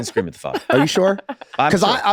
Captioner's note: laughs